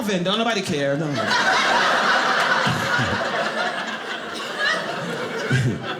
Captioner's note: audience laughing